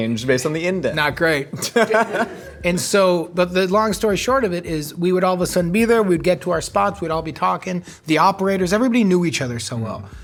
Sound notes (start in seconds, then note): 1.5 laughing